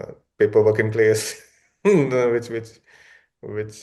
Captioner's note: laughs